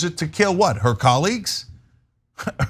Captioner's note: laugh